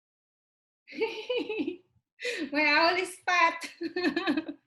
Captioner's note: laughing